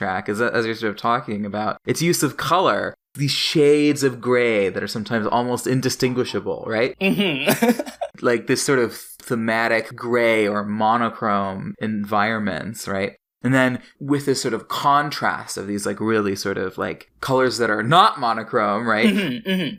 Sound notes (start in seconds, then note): 6.9 laughs